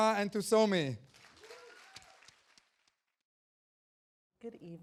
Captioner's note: audience applauding